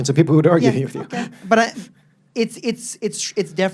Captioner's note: laughs